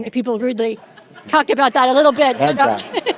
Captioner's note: chuckles